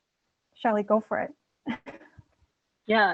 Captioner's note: laughs